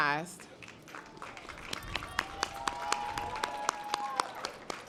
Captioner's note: audience applause